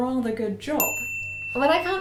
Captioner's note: bell sfx